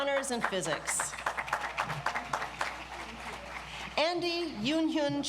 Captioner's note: audience applauds